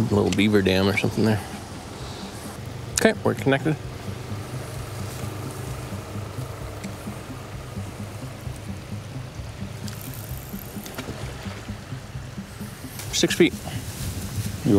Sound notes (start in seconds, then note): 4.8 tense music; 10.7 water splashes